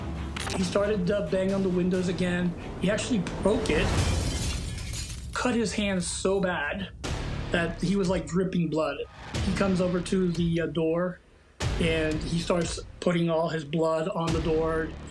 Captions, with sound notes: He started to bang on the windows again. He actually broke it. [glass shatters] Cut his hand so bad that he was like dripping blood. He comes over to the, uh, door, and he starts putting all his blood on the door.